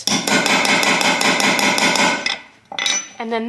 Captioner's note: hammering sounds